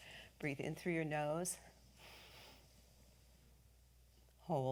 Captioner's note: exhales